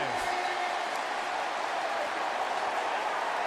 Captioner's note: crowd cheering